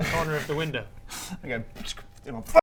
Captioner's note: pfsck